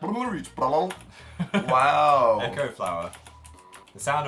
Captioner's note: laughs